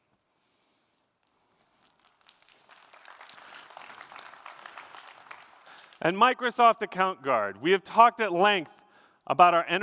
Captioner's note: applause